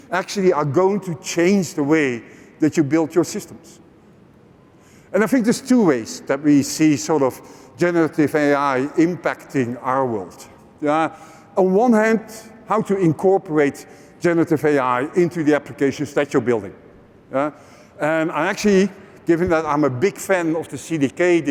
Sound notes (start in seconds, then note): none